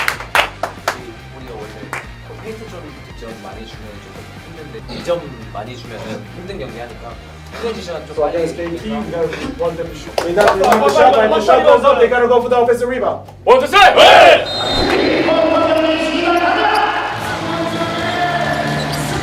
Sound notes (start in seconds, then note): 10.0 A loud, energetic shout of ‘fighting!'